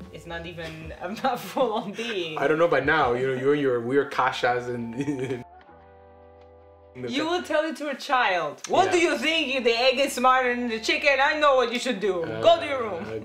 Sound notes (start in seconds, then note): 4.1 speaks Polish